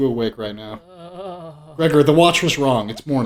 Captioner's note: faint groaning